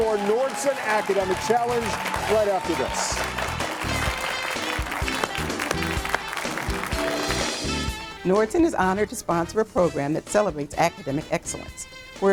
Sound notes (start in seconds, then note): 3.1 audience clapping; 3.1 bright upbeat music